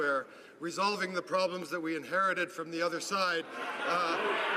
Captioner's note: some Applause